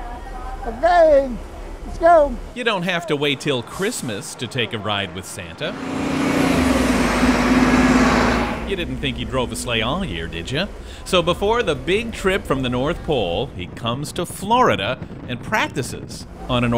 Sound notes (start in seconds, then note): 5.6 bus roaring